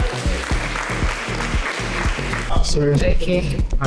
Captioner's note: applause